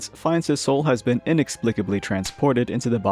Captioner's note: slap